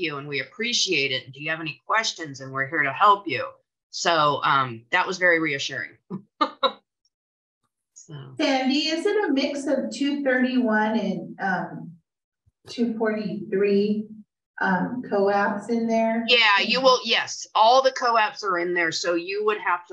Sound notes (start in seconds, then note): 6.1 chuckles